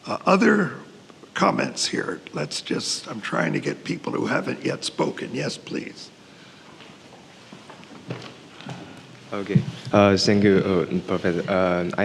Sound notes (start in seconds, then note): 6.6 footsteps tapping